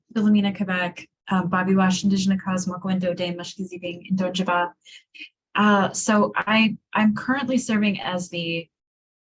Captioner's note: non-english speech